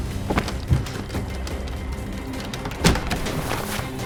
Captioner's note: unlocking door